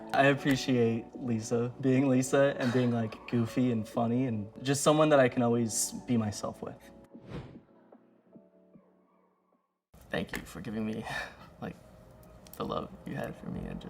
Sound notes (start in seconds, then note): 7.3 wind whooshes